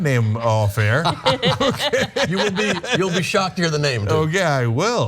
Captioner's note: laugh